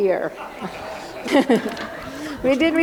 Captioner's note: laughter